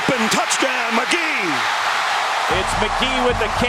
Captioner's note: crowd cheering